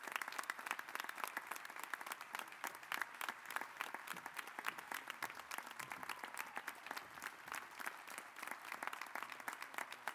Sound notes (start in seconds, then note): 5.0 applause